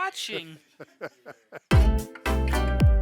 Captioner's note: laughing; upbeat music